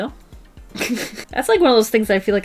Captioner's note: laughs